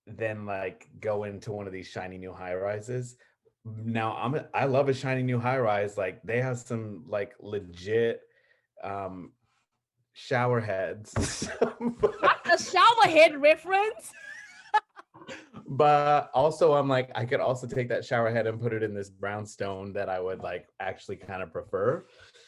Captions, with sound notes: than go into one of these shiny new high-rises. Now I love a shiny new high rise. They have some legit shower heads, (laughs) - Not a shower head reference, (laughs) - But also I'm like, I could also take that shower head and put it in this brownstone that I would actually prefer.